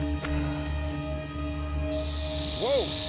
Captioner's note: rattlesnake rattling